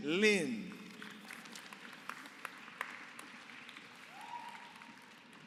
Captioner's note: applause